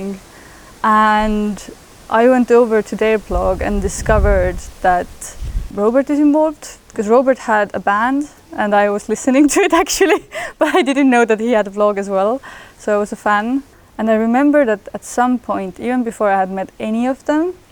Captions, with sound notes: And I went over to their blog and discovered that Robert was involved. 'Cos Robert had a band and I was listening to it actually (laughs). But I didn't know that he had a blog as well, so I was a fan. And I remember that, at some point, even before I had met any of them,